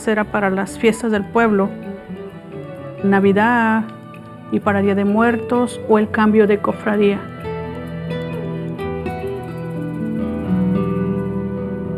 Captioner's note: speaking spanish